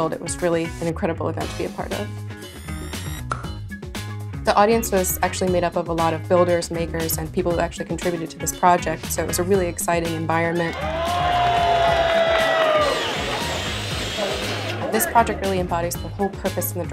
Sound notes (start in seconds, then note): 10.7 audience cheers; 12.8 drill whirring